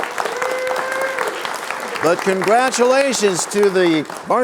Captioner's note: cheers and applause